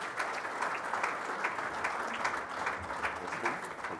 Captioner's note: applause